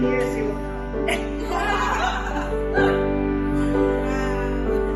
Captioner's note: laughing